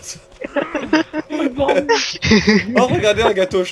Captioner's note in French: Rire